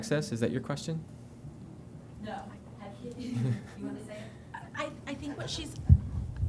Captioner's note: laughter